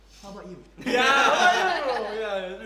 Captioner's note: everyone laughs